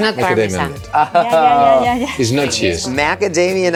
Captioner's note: laughs